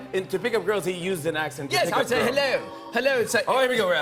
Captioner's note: British accent